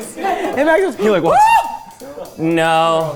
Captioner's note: screams